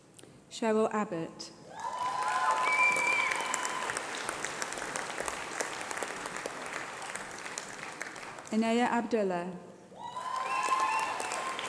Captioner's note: applause